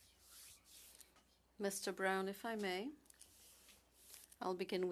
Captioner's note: speaking French